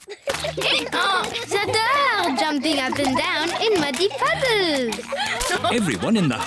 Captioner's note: brays